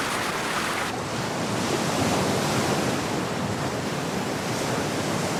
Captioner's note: waves crashing